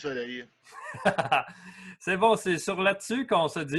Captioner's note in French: rires